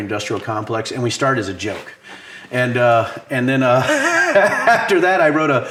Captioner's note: laughs